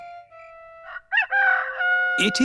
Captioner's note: rooster crowing